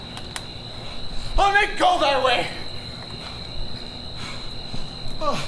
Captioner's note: panting